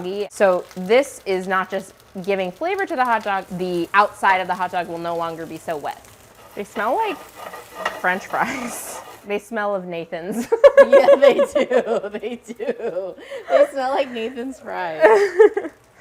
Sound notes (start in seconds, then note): 10.4 laughing